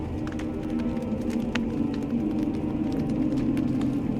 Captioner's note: fire crackling